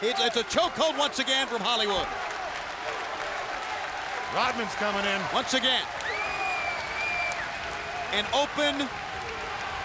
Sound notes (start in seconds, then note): 3.2 audience clapping